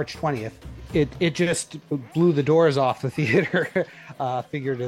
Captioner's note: laughs